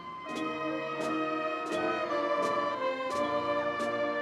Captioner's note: audience cheering